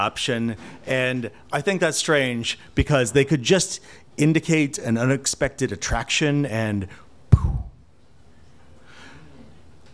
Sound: poof

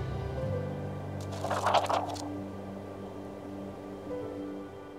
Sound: pages flip

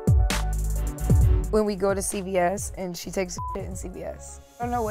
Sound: beep

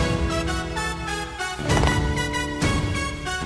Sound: heels clacking

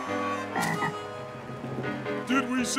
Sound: croaking

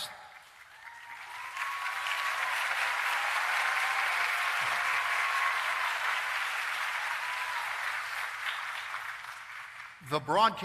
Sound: applause and Cheering

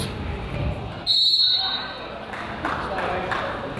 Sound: whistle blows; crowd applauds

